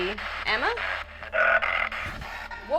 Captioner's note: spirit box voice